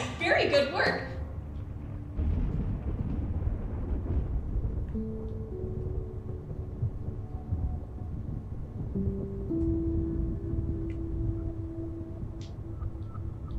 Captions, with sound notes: Very good work. (thunder rumbling) (soft piano music)